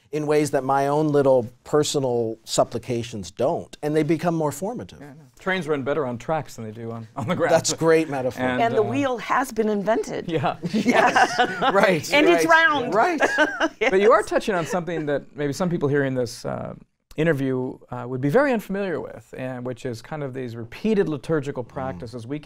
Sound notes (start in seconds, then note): 10.6 all laughing; 13.4 laughing